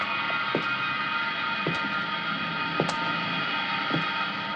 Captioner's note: footsteps continue